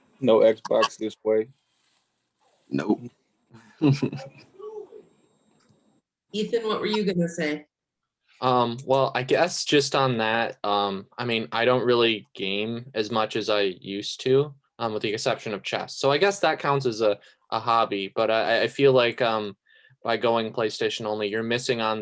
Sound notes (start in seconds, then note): 3.8 snickers